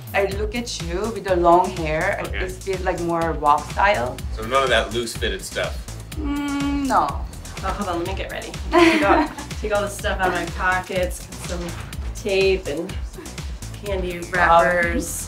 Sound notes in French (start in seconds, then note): 8.6 rire